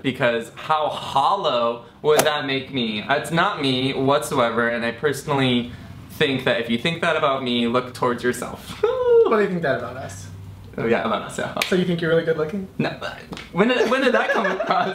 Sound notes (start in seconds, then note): 8.7 laughs